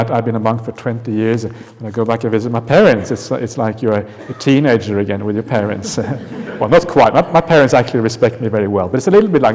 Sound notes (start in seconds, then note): 5.6 laughter